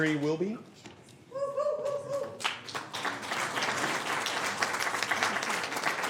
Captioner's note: applause